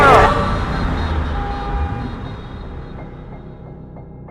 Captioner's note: car horn blowing